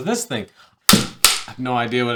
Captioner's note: clapperboard clicking